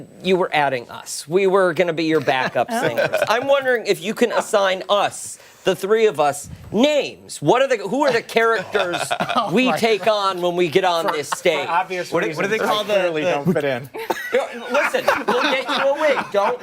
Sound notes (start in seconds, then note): 8.5 laughter